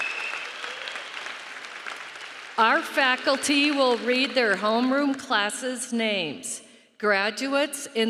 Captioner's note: cheering and applause